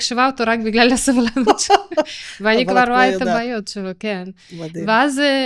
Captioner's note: laughter